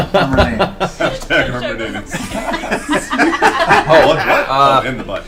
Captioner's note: all laugh